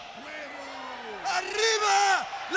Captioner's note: Syxx mumbling